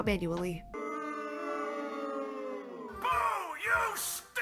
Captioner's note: shamefull booing